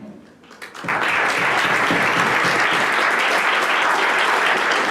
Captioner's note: applause